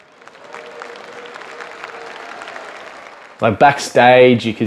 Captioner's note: applause